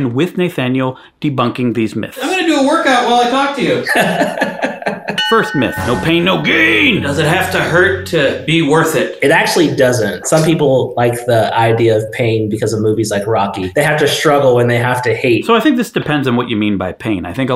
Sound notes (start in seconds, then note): 3.8 laughing; 5.1 chime sounding